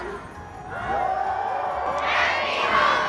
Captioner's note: everyone cheers